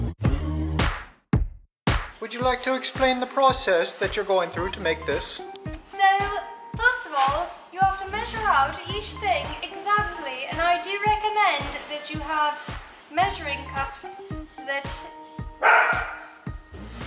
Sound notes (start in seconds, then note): 2.1 speaking in a British/Irish accent; 5.5 in a British accent; 15.6 dog bark